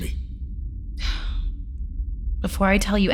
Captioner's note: sighing